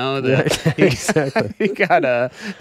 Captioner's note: laughing